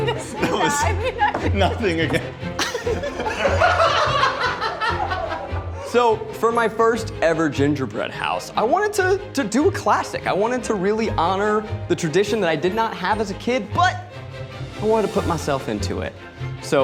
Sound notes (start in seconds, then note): 3.2 group laughing